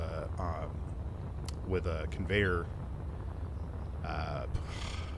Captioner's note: scoffs